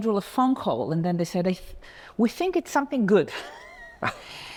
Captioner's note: laughs